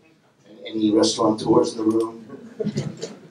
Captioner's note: laughter